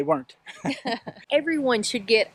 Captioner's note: laughter